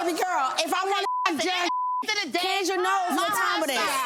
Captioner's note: beep